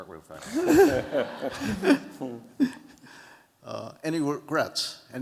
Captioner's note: laughter